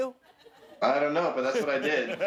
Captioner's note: laughter